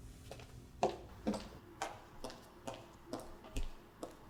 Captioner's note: heels clacking